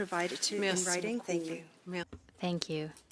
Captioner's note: speaking French